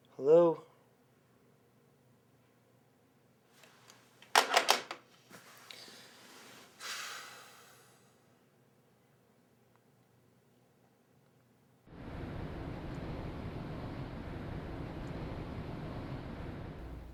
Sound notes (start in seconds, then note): 4.3 phone clicks; 6.8 Tom exhales; 11.9 ocean sounds